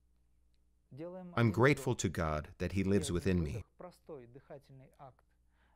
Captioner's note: breathing-in and breathing-out